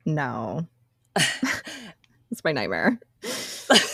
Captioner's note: laughs